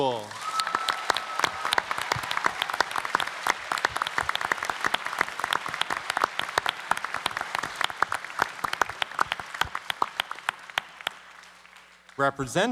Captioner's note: applause